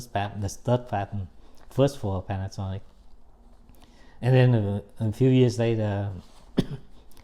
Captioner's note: coughs